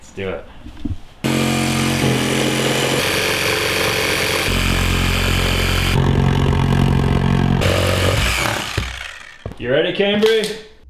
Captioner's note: sawing sounds